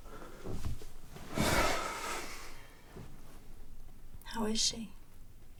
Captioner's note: Bryan sighs